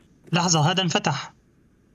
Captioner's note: door creaks; door closes